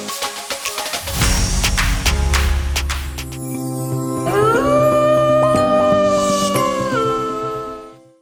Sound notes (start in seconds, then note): 3.5 soft ambient music; 4.5 wolf howling